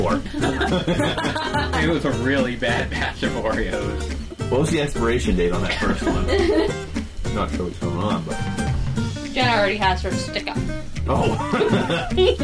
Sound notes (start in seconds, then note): 0.2 laughing; 5.6 laughing